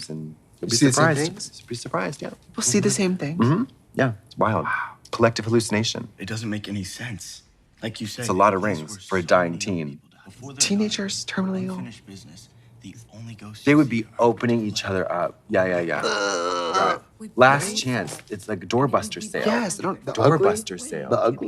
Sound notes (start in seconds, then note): 15.8 Trixie grunting